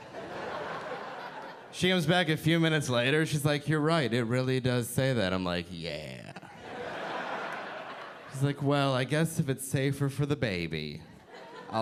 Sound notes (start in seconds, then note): 6.4 audience laughing